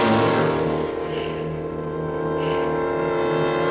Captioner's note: ominous music; gasps